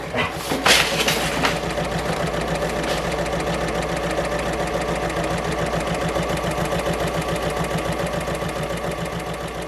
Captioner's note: sewing Machine Sounds